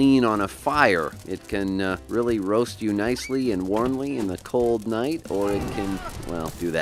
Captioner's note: fire creates explosion and man runs away